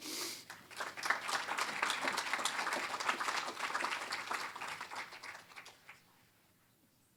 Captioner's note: applause